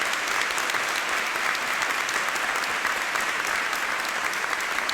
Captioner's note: audience applauding